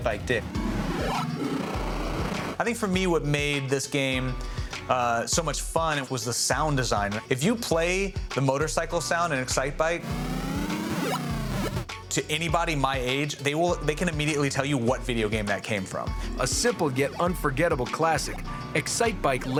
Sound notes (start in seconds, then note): 0.0 arcade music plays; 11.0 motorcycle sound